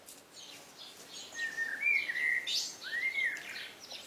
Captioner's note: birdsong